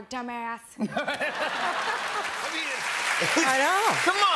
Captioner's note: laughter